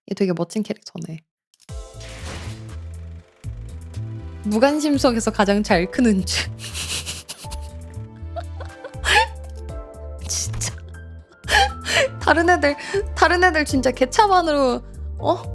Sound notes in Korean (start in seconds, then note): 6.5 웃음